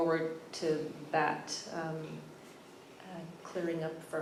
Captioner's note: none